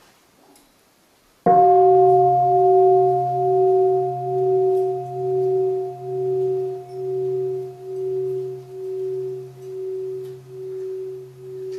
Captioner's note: three sounds of the bell